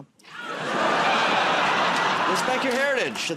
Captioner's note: laughter